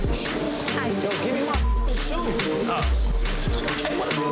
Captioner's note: beep; beep